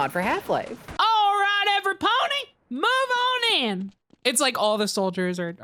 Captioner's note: Applejack voice